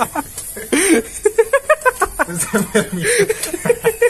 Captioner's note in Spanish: Risas de macaco en celo